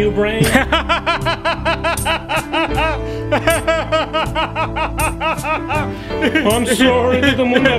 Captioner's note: laughter